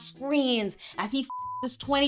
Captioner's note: beep